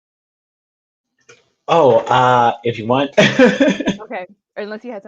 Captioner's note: laughs